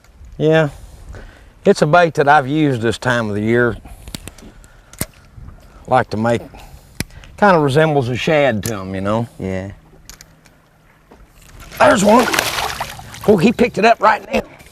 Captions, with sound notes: yeah it's a bait that I've used this time of the year like to make it kind of resembles a shad to them Yeah there's one!! [splashing] he picked it up right now